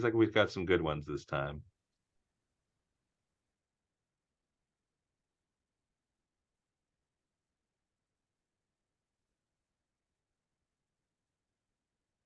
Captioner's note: silence